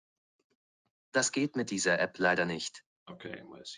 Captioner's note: German language speech